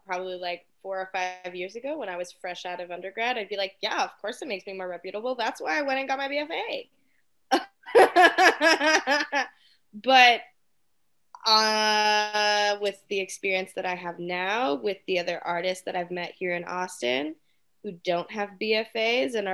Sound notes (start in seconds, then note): 7.6 laughs